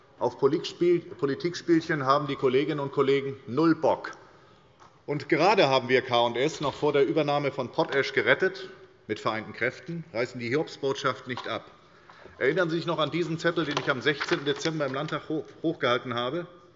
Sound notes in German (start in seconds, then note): none